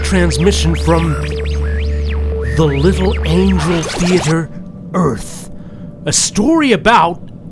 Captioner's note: story wanging sound effect